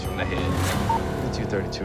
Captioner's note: beeping